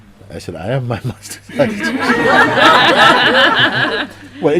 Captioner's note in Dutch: Gelach